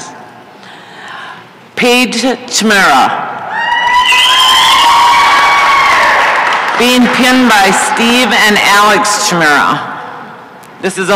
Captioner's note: applause and cheering